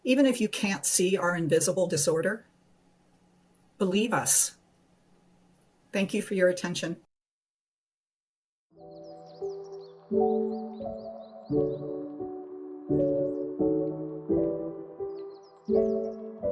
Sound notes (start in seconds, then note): 8.7 gentle music; 8.8 birds chirping